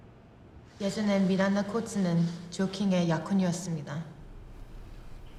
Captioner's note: speaking Korean